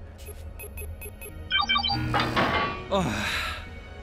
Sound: beep boop

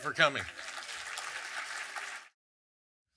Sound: audience clapping

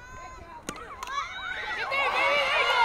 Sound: crowd cheering

